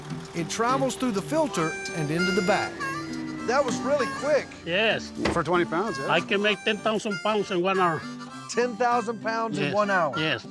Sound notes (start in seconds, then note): none